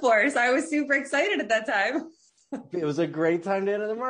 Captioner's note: laughs